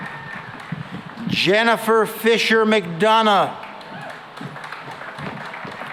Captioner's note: applause